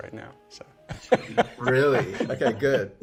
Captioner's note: laughs